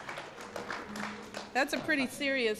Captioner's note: applause